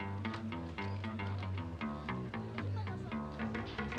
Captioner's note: speaking Spanish